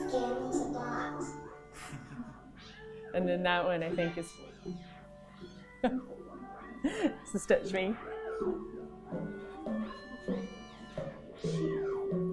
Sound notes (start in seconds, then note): 1.5 laughing; 5.5 laughs; 9.1 gentle upbeat music